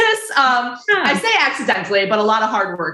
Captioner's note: chuckles